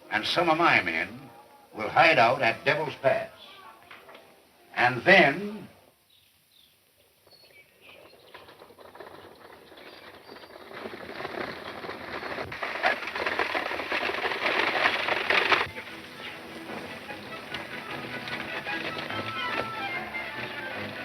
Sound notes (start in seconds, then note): 11.9 horses galloping; 18.2 exciting music